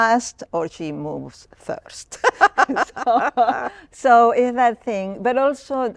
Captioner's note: laughter